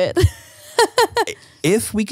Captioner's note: laughs